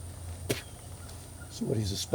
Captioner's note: soldier spitting